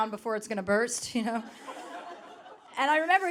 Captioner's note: audience laughing